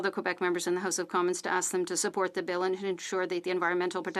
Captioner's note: speaking in French